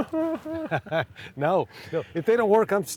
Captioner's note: crying sounds